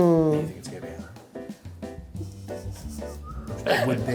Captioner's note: laughs